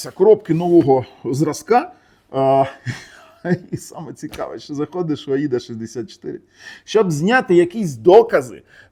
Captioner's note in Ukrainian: сміх